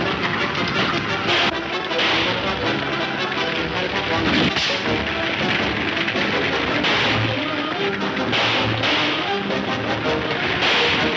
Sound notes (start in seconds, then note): 0.3 gunshots banging; 3.3 punch thudding; 6.2 gunshots banging